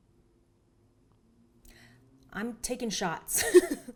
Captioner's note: laughs